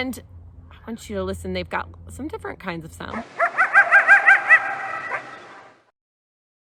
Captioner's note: animal Noises